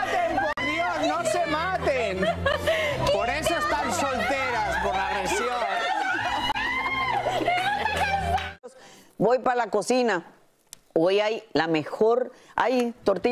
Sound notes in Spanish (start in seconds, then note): 4.6 gritos